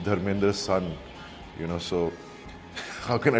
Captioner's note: laughs